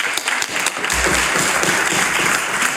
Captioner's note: applause